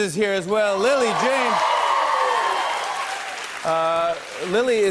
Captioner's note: cheers and applause